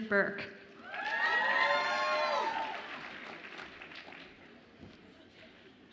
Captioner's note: audience applauds and cheers